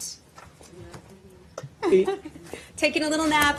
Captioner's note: laughter